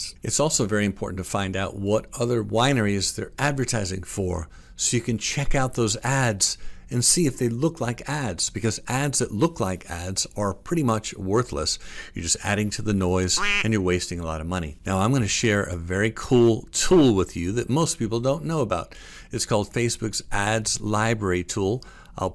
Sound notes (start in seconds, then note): 13.3 duck quacks